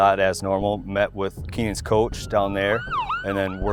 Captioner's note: siren